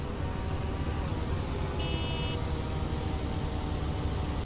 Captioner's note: cars beeping